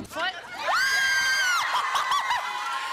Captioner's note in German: Freudenschreie, Lachen